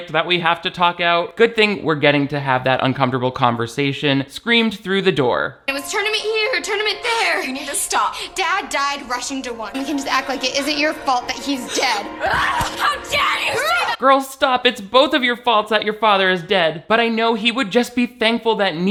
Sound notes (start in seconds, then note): 13.0 screams